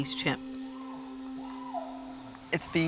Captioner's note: chimps screeching